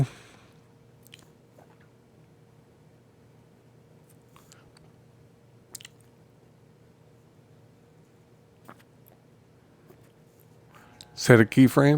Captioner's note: silence